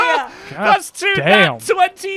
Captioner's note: laughs